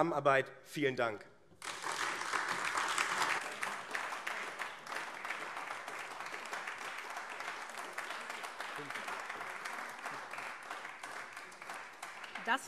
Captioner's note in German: Beifall AfD